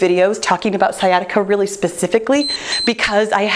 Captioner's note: timer beeps